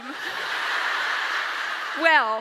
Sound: audience laughs

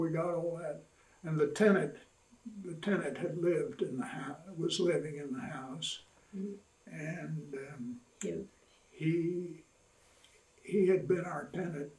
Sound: laughs

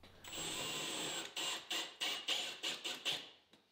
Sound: drill whirring

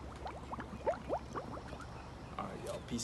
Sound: jacuzzi bubbling

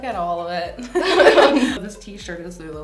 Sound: both laugh

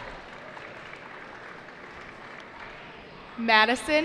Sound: cheering

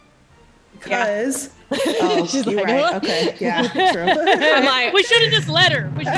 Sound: laugh

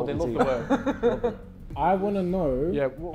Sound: Vikram laughing

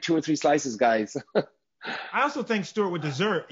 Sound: chuckles

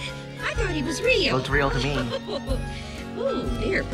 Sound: laughs

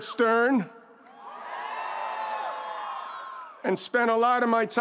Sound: students cheering

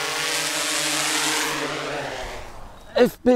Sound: propeller shutting down

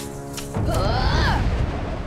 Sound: groaning

